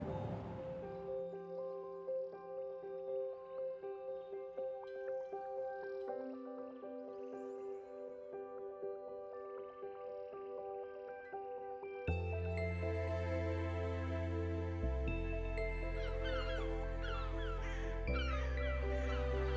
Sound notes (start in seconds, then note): 0.0 thoughtful piano music; 17.0 birds squawking